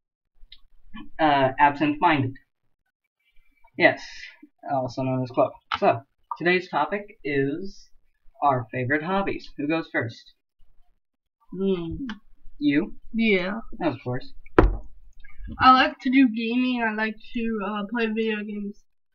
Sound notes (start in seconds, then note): 14.5 random Thud